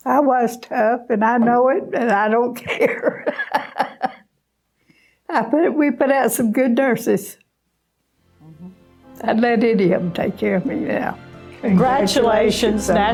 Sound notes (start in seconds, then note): 2.6 laughing